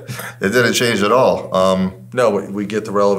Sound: laughing

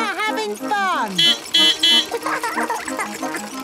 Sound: beeping; laughing

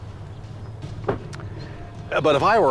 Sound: door slamming

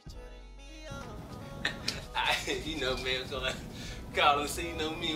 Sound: laughs

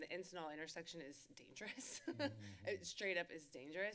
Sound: laughter

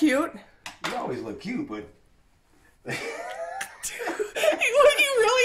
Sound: laughs

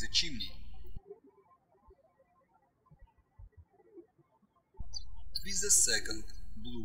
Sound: birds chirping

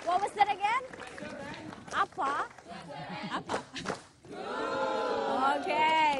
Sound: non-english speech

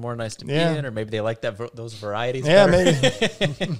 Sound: laughs

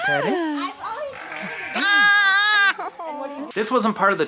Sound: sheep scream

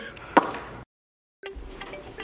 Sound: lips smacking; lighthearted music plays

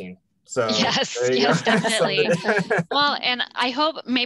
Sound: laughing

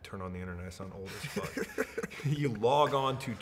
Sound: laughing

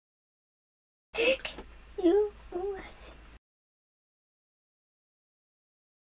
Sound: inhaling; speaking normally

